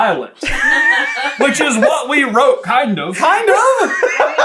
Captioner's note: team laughing; laughing delightfully in background